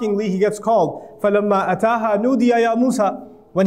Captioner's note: Arabic